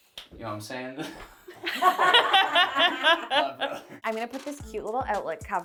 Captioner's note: laughing; chill music